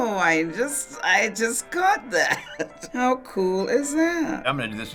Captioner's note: chuckles